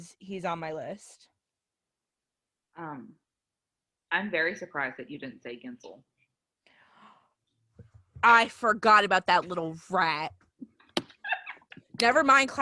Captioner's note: laughter